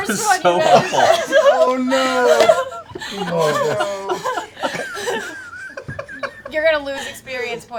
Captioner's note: laughter